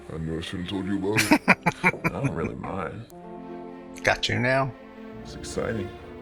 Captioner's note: laughing